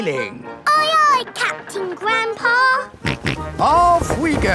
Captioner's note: snorts